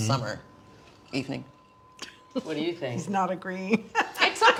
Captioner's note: laughing